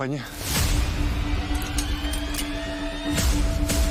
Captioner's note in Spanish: Ruido al enristrar